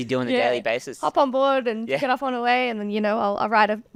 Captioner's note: laughing